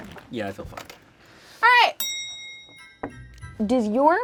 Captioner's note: bell clicking sound